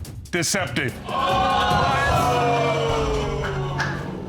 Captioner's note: exclaiming